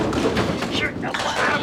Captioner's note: whispers